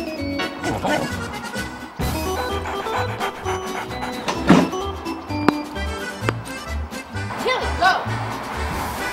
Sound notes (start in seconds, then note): 2.0 dog panting